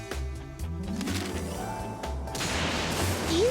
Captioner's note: thunderclap